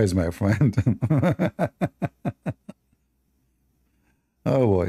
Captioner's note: Ketawa